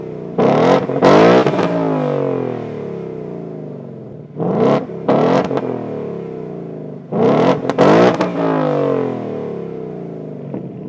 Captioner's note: engine Revs